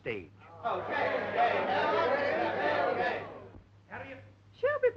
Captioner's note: crowd chattering